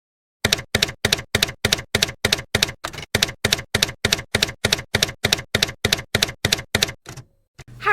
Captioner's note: typewriter keys clacking